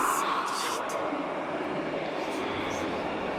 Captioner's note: ghostly Voice